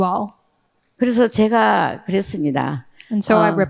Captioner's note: speaking in foreign language